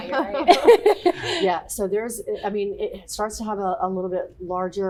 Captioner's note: laughter